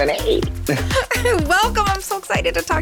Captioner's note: chuckles